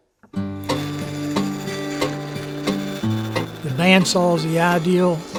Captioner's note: bandsaw running